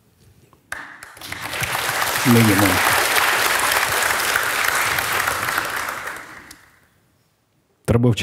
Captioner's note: the audience cheers